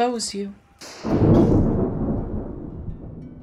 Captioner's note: gunshot and thunder crash simultaneously